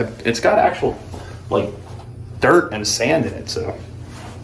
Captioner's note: none